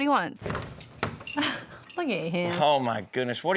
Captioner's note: door opens